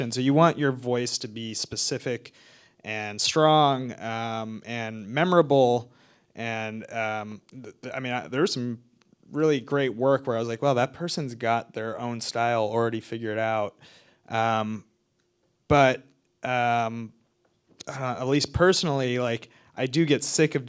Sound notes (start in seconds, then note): none